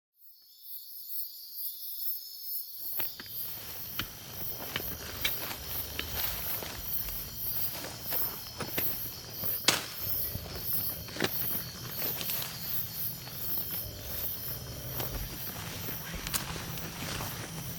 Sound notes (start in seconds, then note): 0.8 insects chirping and buzzing; 2.9 footsteps crunching